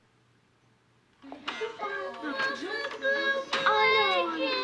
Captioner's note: allison crying